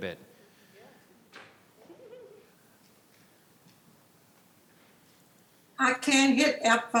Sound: participants chattering in the background

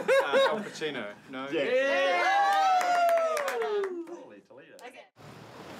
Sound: laughs; all cheer, applaud

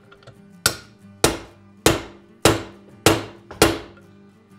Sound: hammer tapping

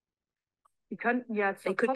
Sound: non-english speech

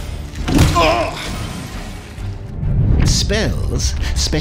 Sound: character grunts

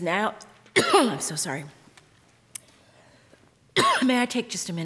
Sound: coughing

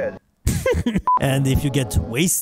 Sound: lolz x5

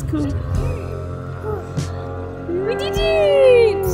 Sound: plane engine roars

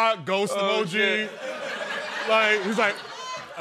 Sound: laughter

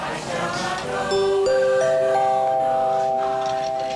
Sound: chiming

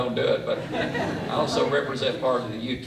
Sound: laughter

